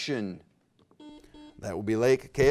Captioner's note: buzzer beep